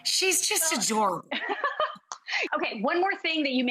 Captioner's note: laughs